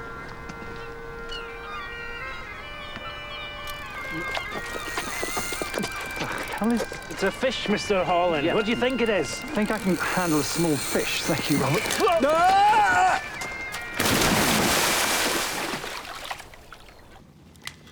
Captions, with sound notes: (bagpipes music) (reel clicking) What the hell is it? - It's a fish, Mr. Holland. What do you think it is? - Yeah, I think I can handle a small fish. Thank you, Robert, whoa! (splashing)